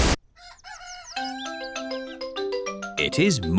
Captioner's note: cockerel crows